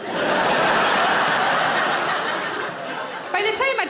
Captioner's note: audience laughing